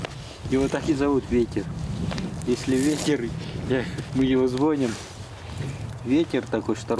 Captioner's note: wind